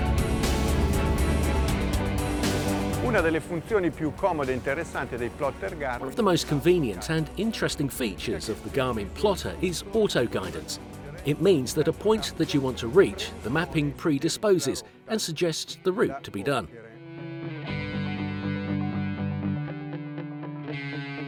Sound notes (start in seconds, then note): 0.0 dramatic music; 3.6 speaking in foreign language; 16.9 electric guitar